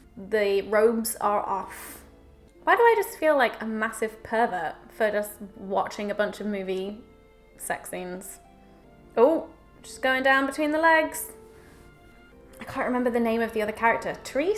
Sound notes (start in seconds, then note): none